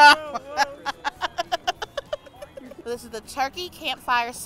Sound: laughing

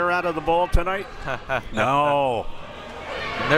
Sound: laughs

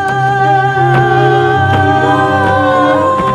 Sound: stomping

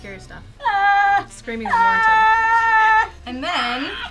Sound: shouts

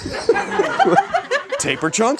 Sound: audience laughs

